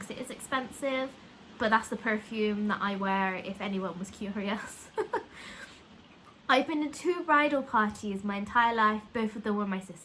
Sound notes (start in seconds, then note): 4.9 laugh